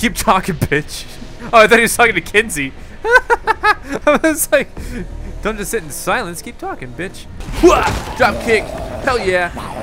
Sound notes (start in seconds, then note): 0.0 voiceover; 3.0 laughs; 7.6 grunts